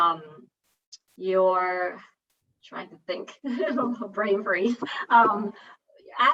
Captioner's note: giggles